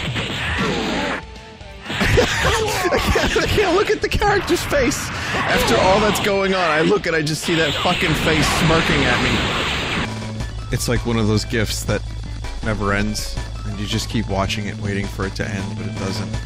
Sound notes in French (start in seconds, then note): 1.9 rigole